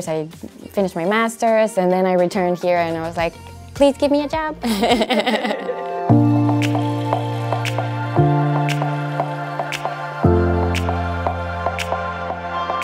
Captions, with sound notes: I finished my master's, and then I returned here, and I was like, please give me a job. (laughs) Her Research at the Wyss Institute